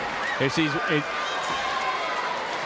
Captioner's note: crowd chatter